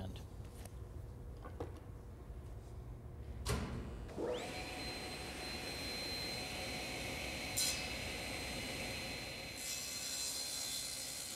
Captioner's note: sawing